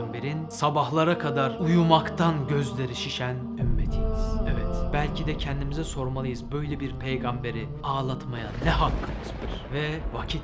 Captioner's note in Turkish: Gökgürültüsü sesi